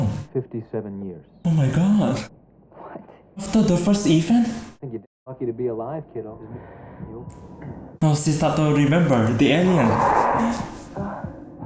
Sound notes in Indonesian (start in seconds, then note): 6.3 Tergagap